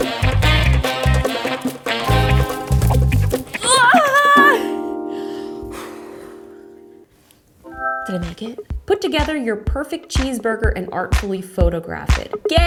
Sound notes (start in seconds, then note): 4.6 inhales deeply; 7.7 device chimes